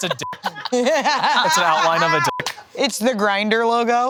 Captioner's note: beep; beep